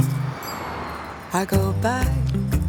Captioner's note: device pings